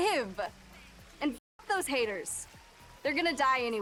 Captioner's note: distant sirens